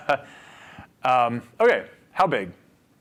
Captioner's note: laughs